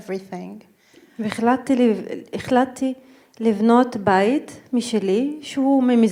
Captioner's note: speaking in foreign language